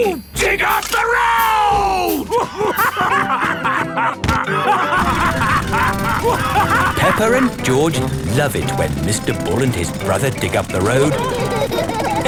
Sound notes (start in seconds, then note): 3.2 both laughing; 6.5 drilling